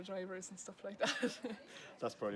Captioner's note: laughs